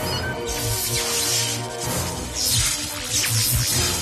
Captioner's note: eel zzzt, energy buzzes